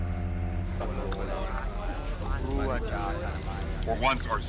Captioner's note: indistinct alien chatter